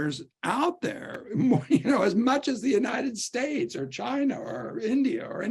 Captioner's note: laughter